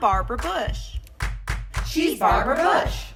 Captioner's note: clap clap clap